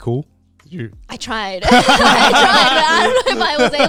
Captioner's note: all laughing